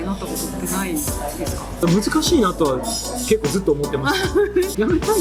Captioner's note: laughs